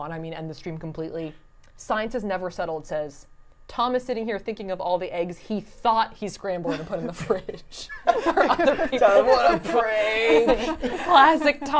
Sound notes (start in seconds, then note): 7.7 laughs